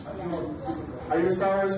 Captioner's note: overlapping chatter